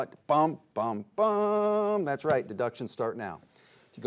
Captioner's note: none